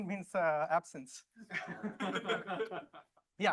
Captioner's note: laughter